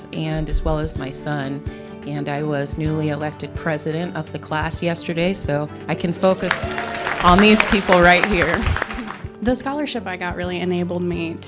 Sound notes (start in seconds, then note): 8.4 all clapping